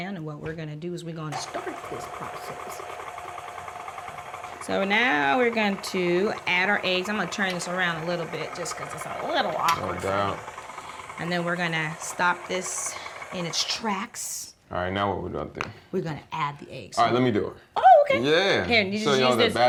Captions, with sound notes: and what we're going to do is we're going to start this process. [mixer whisking] So now we're going to add our eggs. I'm going to turn this around a little bit just because it's a little awkward for me. - No doubt. [mixer whisking] And then we're going to stop this in its tracks. - All right, now what are we going to do? - We're going to add the eggs. - All right, let me do it. - Oh, okay. - Yeah. - Here, you just use this.